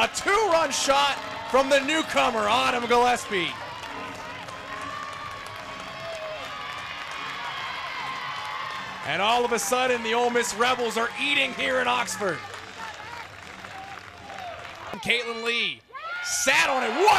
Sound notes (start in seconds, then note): 4.0 crowd cheering; 13.7 clapping